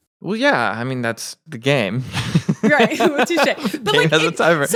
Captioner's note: laughs